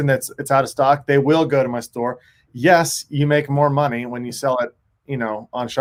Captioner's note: none